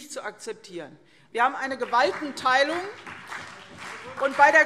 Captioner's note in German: Beifall CDU und BÜNDNIS 90/DIE GRÜNEN